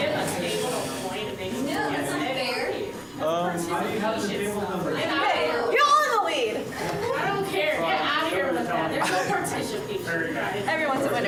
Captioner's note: bustling conversations